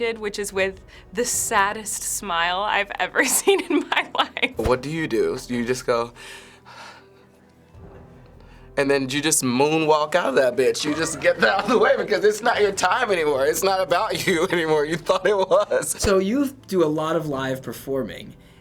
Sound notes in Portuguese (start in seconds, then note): 6.5 suspiro; 14.1 Risos